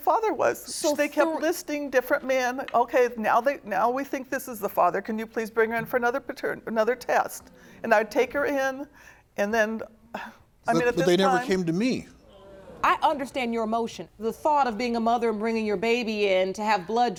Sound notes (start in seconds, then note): 12.0 audience gasping